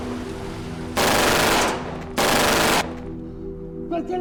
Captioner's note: car leaving; gun fires